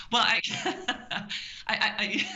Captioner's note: laughing